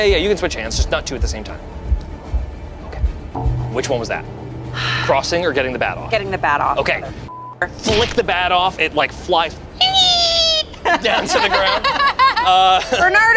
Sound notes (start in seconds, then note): 9.8 buzzes; 10.6 group laughs